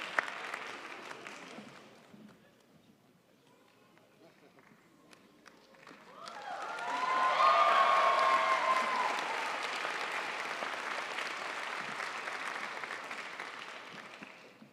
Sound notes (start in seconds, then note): 7.2 crowd applauds